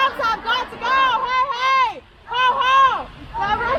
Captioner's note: crowd